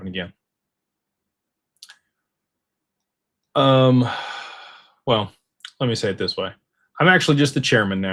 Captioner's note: sighs and gasps